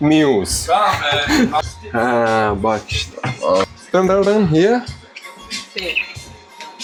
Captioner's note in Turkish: kahkaha